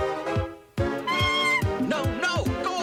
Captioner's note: squawk